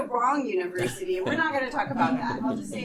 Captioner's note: and students laughing